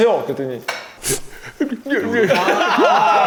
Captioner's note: sobbing